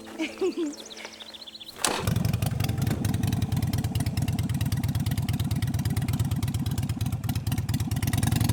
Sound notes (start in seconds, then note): 1.6 motorcycle starts